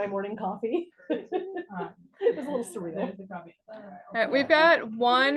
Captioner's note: student chuckles